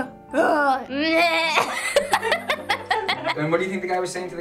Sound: laughing

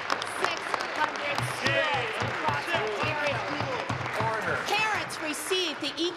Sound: applause

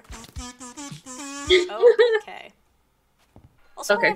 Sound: laughs

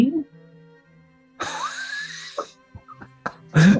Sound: sniggering

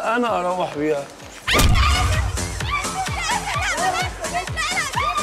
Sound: screaming

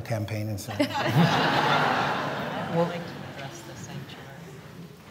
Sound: laughter

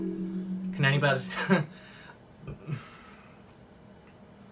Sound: chokes up

